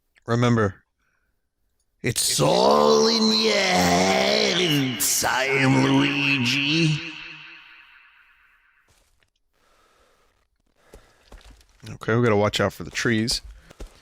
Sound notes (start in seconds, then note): 2.0 As Lou Albano, echoing